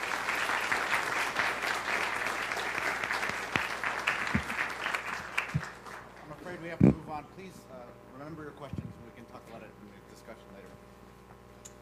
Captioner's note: applause